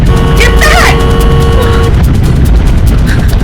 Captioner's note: car horn honks